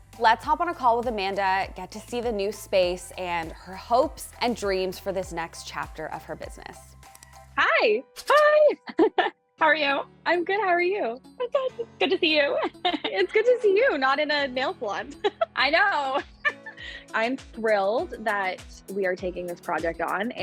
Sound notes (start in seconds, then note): 7.0 mouse clicks; 8.2 laughs; 15.9 laughs